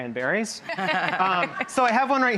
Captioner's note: laughter